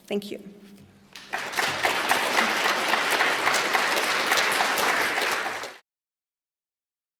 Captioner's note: applause